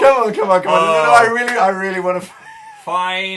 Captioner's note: laughs